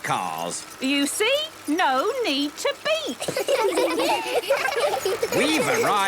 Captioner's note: laughter